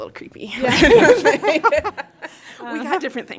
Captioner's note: laughter